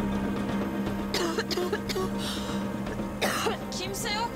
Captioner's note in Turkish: Öksürüyor